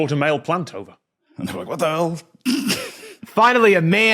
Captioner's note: cracks up